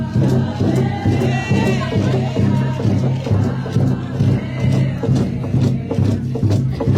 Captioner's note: supporters continue chanting; drums continue beating